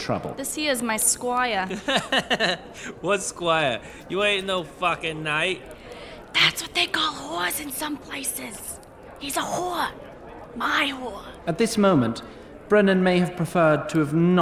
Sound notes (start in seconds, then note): 5.7 mock whispers